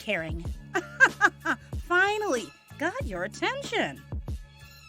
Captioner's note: laughing